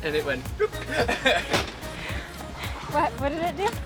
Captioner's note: lips rolling